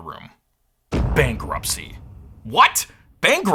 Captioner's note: boom!